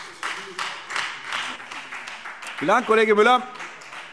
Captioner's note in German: Beifall Freie Demokraten